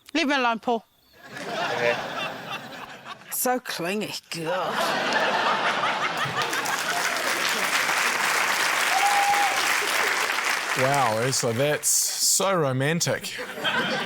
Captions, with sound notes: - Leave me alone, Paul. - OK. - So clingy. God! (LAUGHTER) (CHEERING, APPLAUSE) - Wow, Urzila, that's... so romantic ―